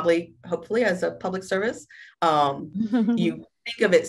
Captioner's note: chuckles